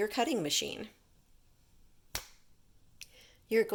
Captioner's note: snapping of fingers